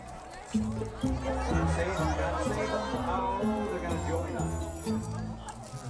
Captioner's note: audience exclaims